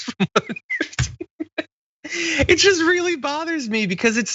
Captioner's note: laugh